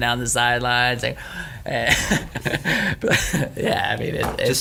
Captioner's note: laughing